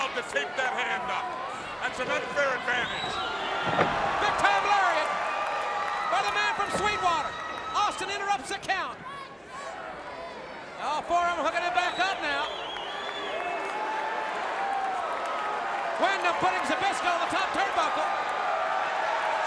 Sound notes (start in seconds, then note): 13.1 crowd cheering